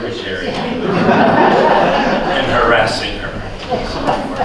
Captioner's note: laughter